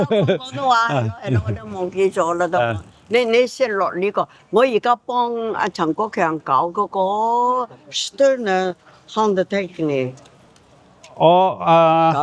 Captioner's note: speaking in foreign language